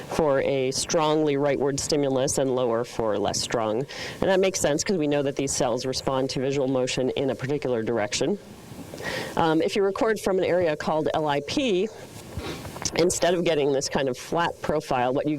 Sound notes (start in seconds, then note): none